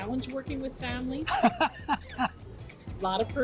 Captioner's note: laughs